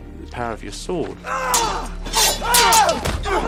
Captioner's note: GRUNTlNG